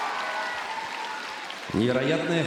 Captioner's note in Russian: ликование